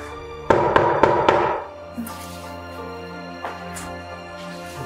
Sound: mysterious music continues; knocking on door

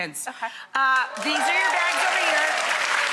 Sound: audience cheers

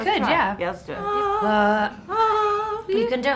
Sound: humming

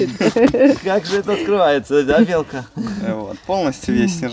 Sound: laugh

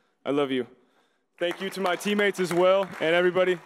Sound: audience applauding

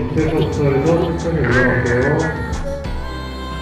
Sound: ahhhhng

